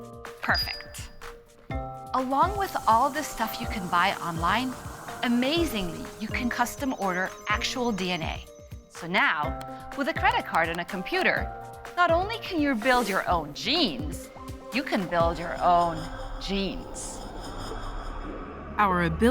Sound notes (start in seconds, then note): none